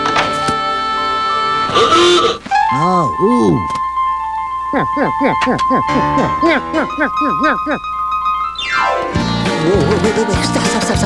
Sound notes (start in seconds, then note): 4.6 imitating curly